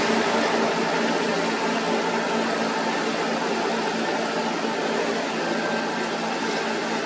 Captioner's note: engine